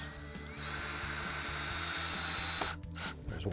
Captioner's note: drill whirring